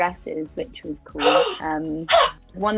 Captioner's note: T'Nia gasps